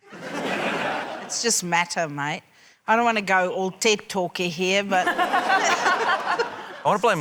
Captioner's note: laughter; laughter